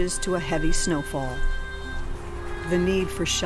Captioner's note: wind howling